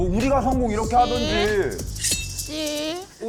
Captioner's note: in a baby’s voice